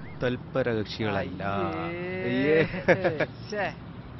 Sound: friends chuckles- teases

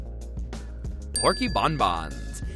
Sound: dings

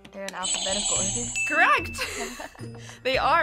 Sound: buzzer rings; bell rings

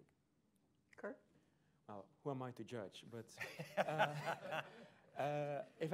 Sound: laughter

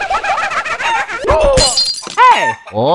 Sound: moar spoopy ghost laughter; cluck, oomph, shatter

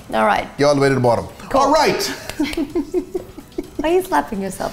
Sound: laughing

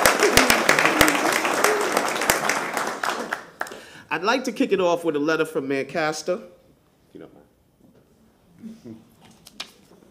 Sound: applause

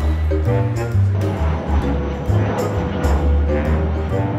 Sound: plane Taking Off

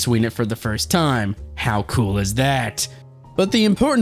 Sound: in narrative voice

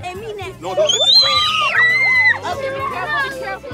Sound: screams

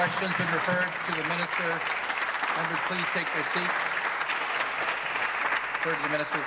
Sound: applause

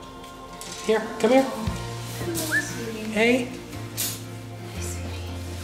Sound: whistle

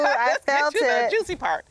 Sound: laughs

